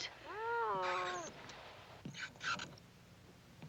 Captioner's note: meow and scratching